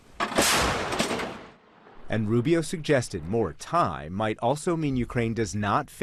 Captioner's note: voice-over